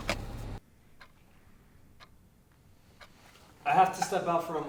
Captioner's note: clock ticking